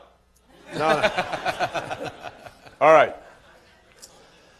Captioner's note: laughter